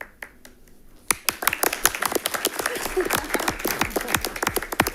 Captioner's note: generous applause rings